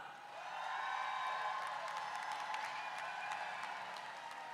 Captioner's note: crowd cheers